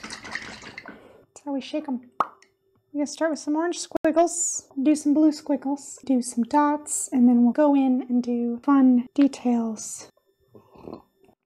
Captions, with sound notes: That's how I shake them. [POP!] We gotta start with some orange squiggles, do some blue, squiggles do some dots and then we'll go in and do fun details.